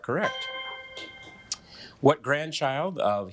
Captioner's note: bell dinging